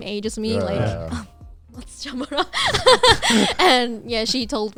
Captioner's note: speaking in Japanese